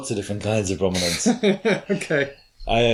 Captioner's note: laughs